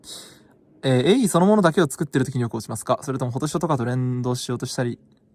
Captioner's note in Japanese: 鼻息